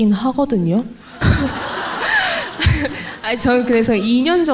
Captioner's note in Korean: 질문자와 청중 웃음